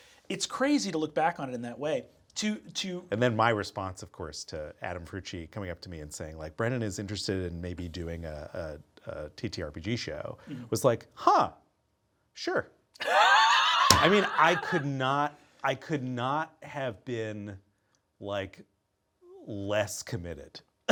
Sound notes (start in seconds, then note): 13.0 Brennan laughing; 13.8 palm thumping